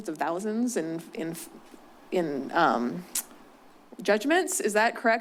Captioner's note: stuttering